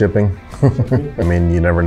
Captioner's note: laughs